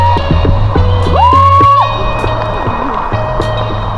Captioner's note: scream